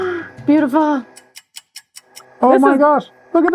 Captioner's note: gasps; clock ticking